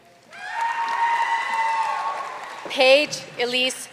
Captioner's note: audience cheering and applauding